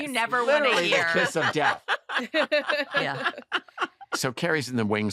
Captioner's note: laughter